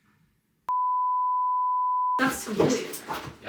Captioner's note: signal beeps